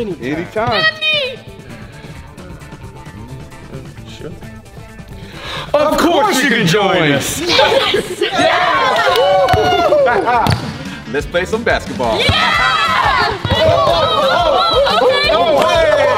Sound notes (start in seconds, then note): 7.4 all cheering